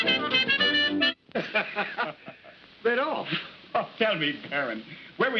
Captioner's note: laughs